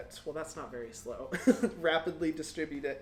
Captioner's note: chuckles